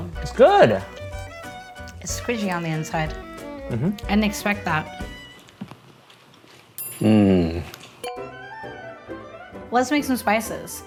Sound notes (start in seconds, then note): 8.0 bell dinging; 8.1 upbeat classical music